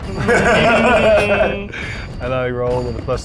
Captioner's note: laughs